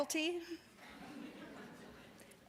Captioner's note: audience laughs